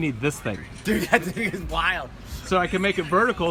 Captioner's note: laughing